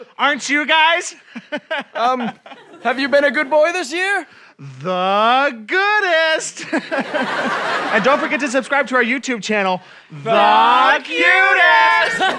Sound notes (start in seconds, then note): 1.3 laughs; 6.6 laughs